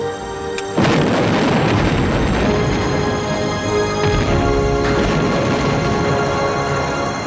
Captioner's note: triumphant music; bombs exploding